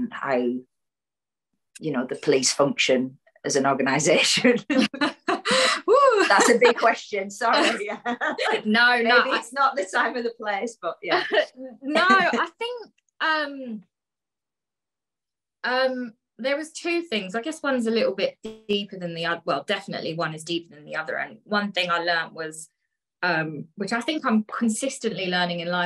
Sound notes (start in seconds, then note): 4.8 laughs; 12.0 laughter